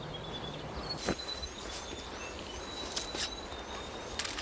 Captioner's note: birds chirping